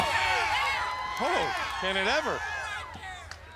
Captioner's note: crowd chatter